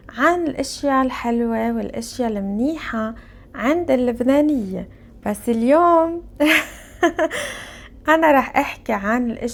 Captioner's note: laughs